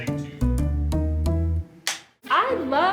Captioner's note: clipper board clicks